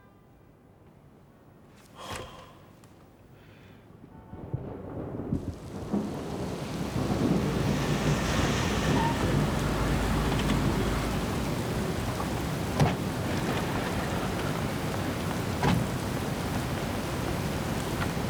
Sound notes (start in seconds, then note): 1.9 sighing